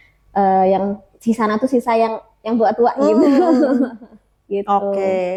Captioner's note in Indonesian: tertawa